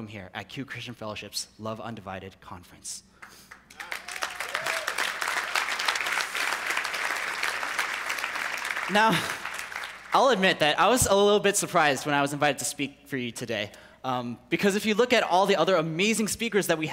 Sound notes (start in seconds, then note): 3.2 people clapping